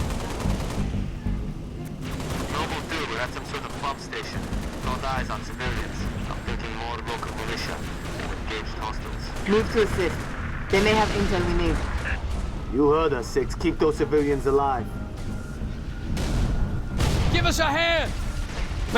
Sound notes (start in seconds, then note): 9.5 radio